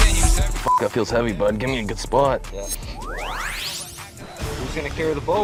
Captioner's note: whooshing